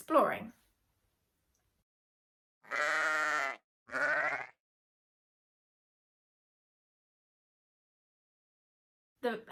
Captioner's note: baaaa sheep sound